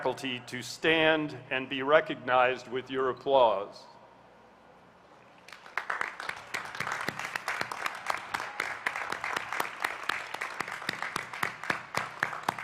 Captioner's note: applause